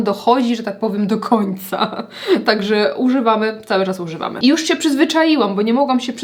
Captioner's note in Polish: śmiech